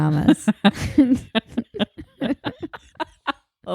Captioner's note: laughing